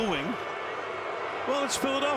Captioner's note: booing